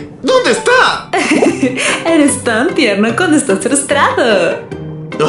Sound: giggles

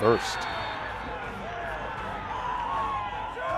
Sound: cheers

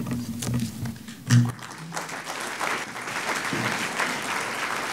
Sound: audience clapping

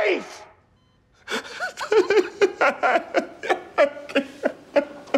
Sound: man sobbing

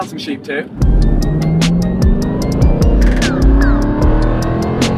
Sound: engine raving

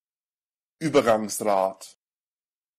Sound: fast Pronunciation

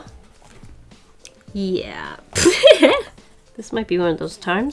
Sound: laughs

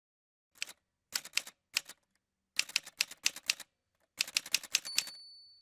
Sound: typewriter sounds

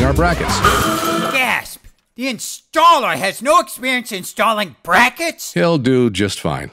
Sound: crash

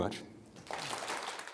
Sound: audience applause

